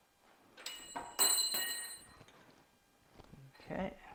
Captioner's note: wrench falling